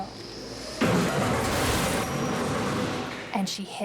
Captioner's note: banging